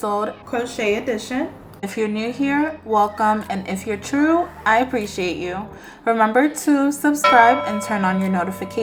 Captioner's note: bell